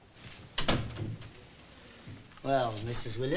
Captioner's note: door thuds